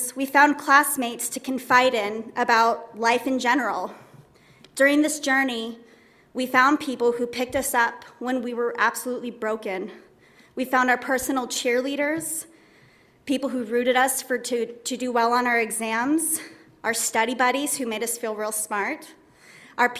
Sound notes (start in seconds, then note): none